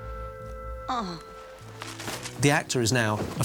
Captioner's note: groans